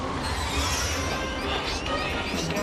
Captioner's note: jet roars; alarms blare